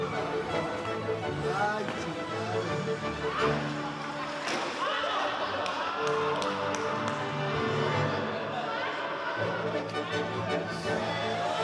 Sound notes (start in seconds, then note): 1.2 laughing